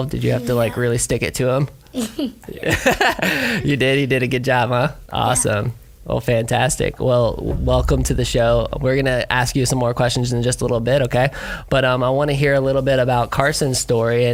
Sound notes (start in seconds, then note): 1.9 giggles; 2.5 laughs